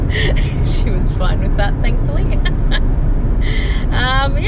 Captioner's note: raucous laughter; more chuckling